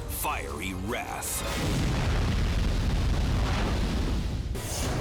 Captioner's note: fire roaring; logo swooshing